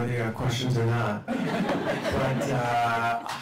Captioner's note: laughter